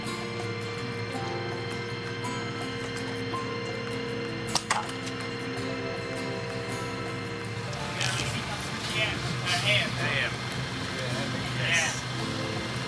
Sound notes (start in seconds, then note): 8.3 indistinct conversation